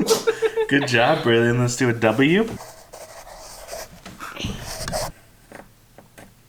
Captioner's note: laughing; laughs